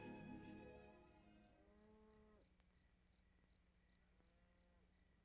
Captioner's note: insects chirping